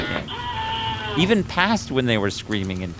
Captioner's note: screams